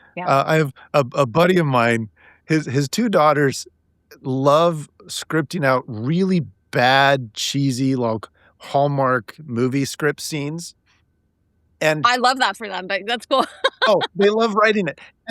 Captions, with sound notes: -I have.... a buddy of mine, his two daughters love scripting out really bad, cheesy, like Hallmark movie script scenes And— -I love that for them. Like, that's cool. (laughing) -Oh, they love writing it.